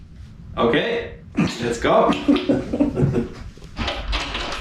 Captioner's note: laughing